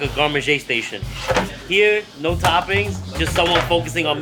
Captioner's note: pizza holder clatters